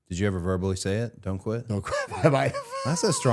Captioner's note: laughs